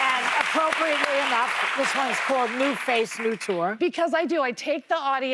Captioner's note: cheers and applause